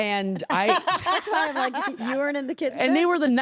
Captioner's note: laughing